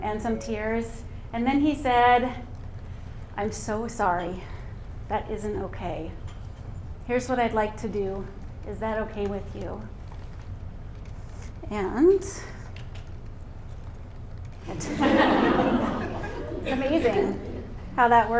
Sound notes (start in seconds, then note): 14.7 laughter